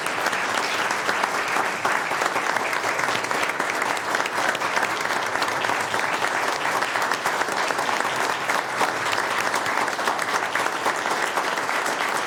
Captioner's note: applause